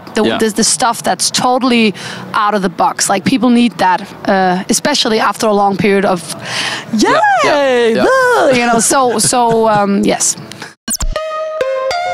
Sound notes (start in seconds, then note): 7.0 yaaaay